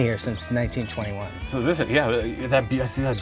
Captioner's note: stammers